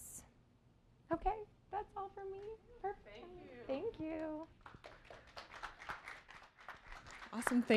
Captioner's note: applause